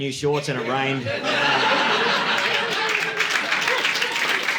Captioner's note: audience laughing